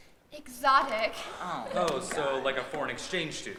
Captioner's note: students laugh